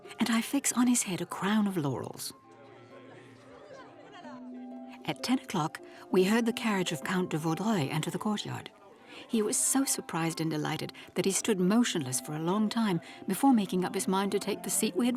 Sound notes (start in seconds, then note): 3.0 gentle music; 3.0 people chatting